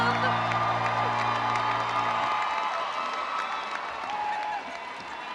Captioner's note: crowd cheering and applauding